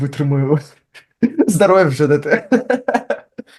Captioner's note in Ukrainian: сміється